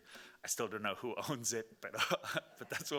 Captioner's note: laughing